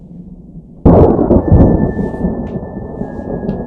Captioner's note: lightning strike